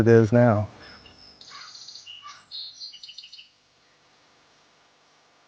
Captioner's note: birds chirping